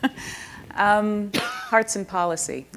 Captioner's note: chuckles